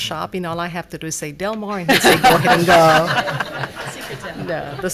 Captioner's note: laughs